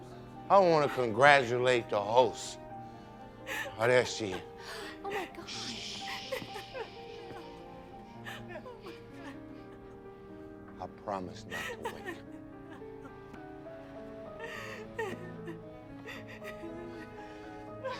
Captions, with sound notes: Oh that him. (weeping) (shushes) I promise not to wake him. You know, this is beautiful.